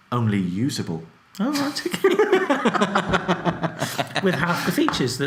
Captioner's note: both laugh